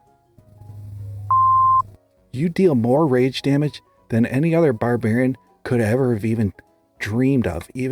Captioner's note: beep